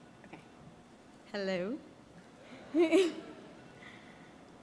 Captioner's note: chuckles